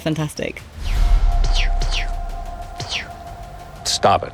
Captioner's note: making pew noises